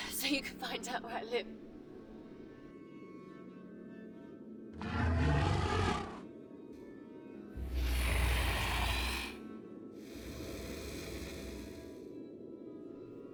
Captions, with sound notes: so you can find out where I live. (dragon growls)